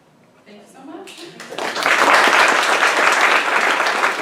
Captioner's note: applause